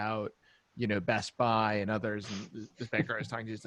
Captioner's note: laughing